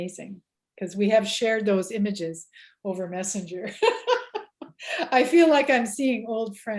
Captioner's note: laughs